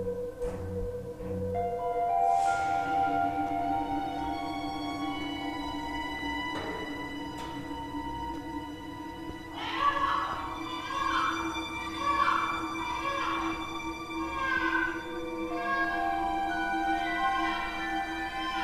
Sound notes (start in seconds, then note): 3.5 ominous music; 10.5 child crying closer